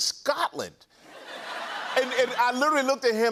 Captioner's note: laughter